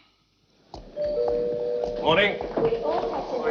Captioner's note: bell ringing